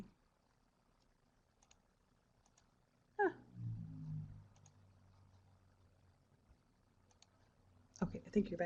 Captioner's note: no sound - waiting to get back to the presentation